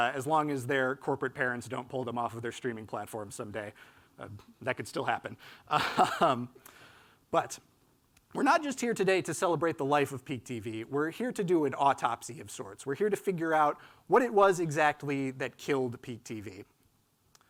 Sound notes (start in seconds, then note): 5.8 laughs